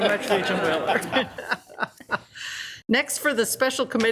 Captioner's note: group laughs